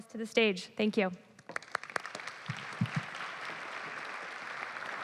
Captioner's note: applause